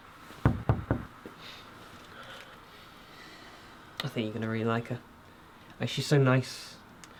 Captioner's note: knocks on door